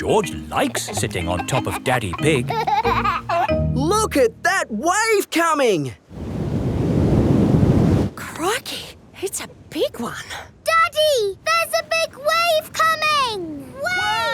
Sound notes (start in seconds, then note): 0.0 snorts; 2.9 giggling